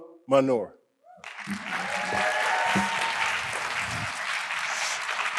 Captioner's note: audience applauding